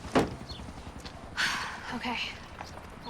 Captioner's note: sighs